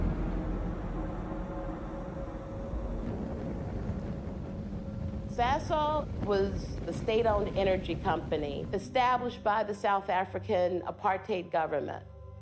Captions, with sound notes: (fire raging) - Sasol was the state-owned energy company established by the South African Apartheid government.